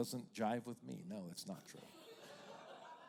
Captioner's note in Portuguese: risos da plateia